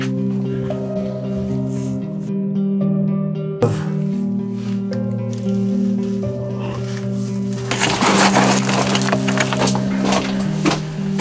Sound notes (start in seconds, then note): 6.8 loud shuffling